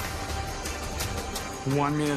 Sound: clapping, butane torch hisses

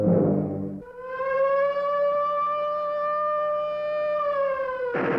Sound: siren wailing; machine gun fire

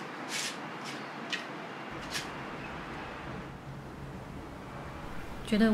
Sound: light footsteps pattering

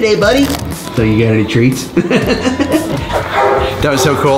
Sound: laughs

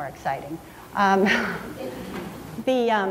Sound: laughs

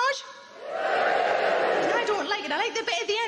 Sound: audience cheers

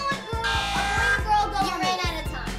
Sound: buzzer

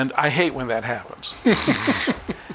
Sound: chuckling

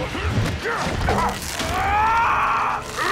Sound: screaming

